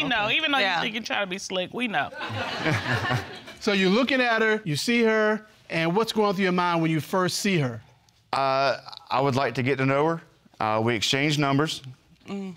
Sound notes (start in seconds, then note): 2.2 all laughing